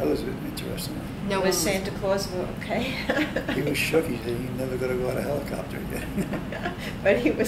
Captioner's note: laughs